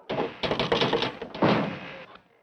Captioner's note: rattling